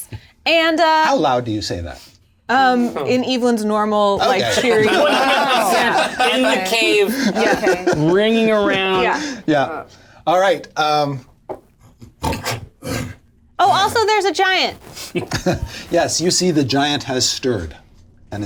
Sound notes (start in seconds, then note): 4.2 all laugh; 12.2 snorts and growls